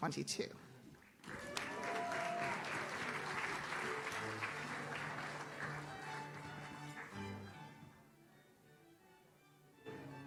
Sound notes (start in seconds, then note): 1.2 audience cheers; 5.7 classical string music